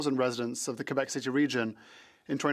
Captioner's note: speaking French